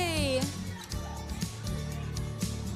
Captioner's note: students laugh and chatter